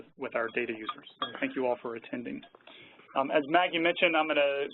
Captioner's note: clinking of metal